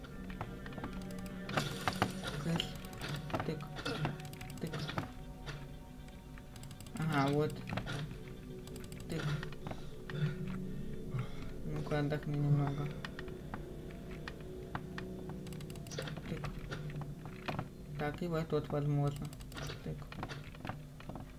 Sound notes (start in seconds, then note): 4.0 clicks